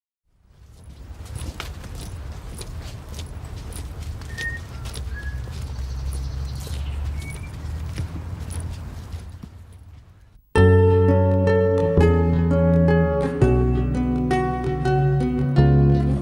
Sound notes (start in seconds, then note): 0.7 foot steps; 4.2 whistling; 10.5 upbeat music